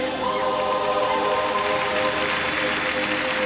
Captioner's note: applause